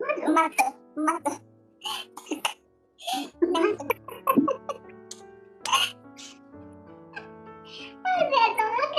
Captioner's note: laughs